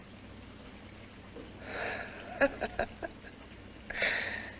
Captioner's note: laughs